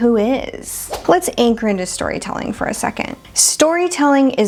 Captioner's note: air Whooshing